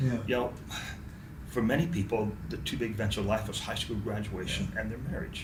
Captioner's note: sighs